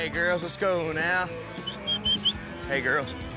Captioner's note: whistles